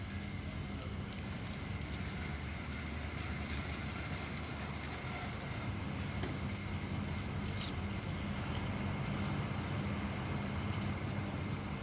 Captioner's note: car driving